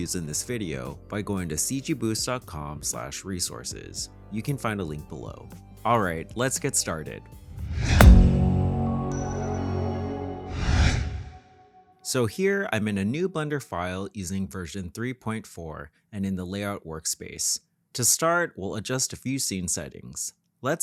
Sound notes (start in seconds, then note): 7.5 graphics whoosh; 7.7 bright music